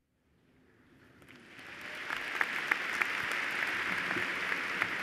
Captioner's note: applause